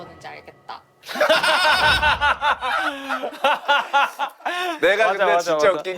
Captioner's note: laughter with many underlying meanings